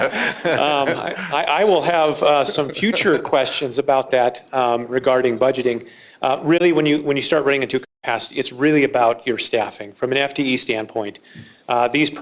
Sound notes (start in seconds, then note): 2.3 laughter